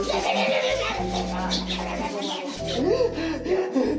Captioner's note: aggresive smooching noises; aggresively gasping for air